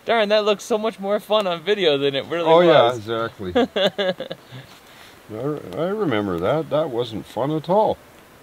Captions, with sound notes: Darn, that looks so much more fun on video than it really was (laughs) - Oh yeah exactly - I remember that, that wasn't fun at all.